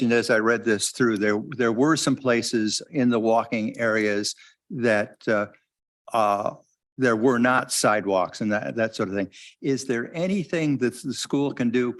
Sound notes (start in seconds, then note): none